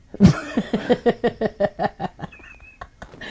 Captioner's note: laughing